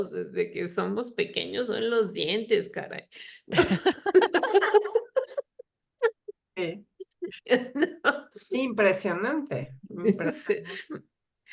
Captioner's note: laughs